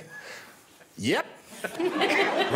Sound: guests and audience laughing

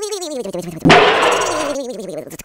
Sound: slam

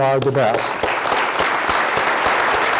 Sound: applause

